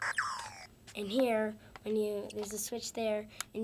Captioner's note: beeping